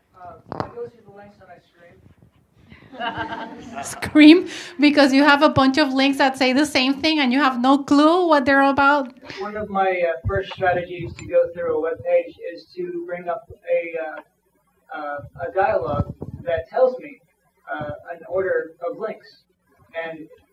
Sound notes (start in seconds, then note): 2.8 audience laughs